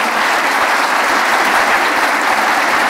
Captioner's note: applause